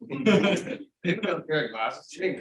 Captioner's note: audience laughing